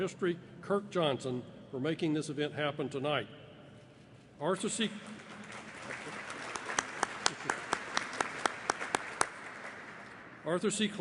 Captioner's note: applause